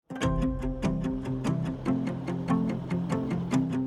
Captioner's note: upbeat music; bus in distance